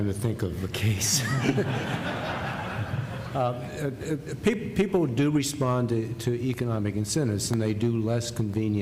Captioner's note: laughter